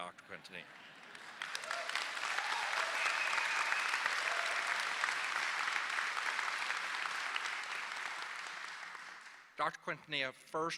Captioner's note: applause